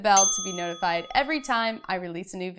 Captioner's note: bell dings